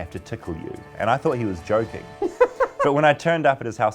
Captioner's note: laughs